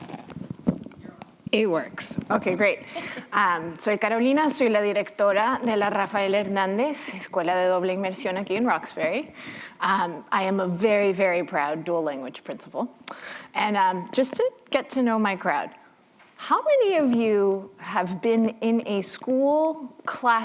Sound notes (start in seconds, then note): 4.7 non-english speech